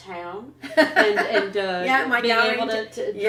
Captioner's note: laughter